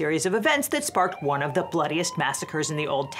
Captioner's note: siren whooping